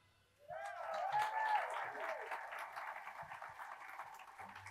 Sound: attendees applauding

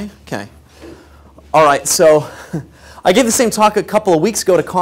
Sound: laugh

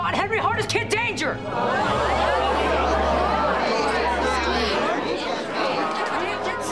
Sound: chattering

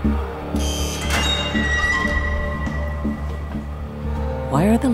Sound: cell door creaking; buzzing

